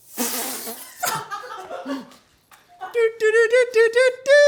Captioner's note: laughing